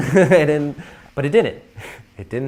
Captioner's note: laughter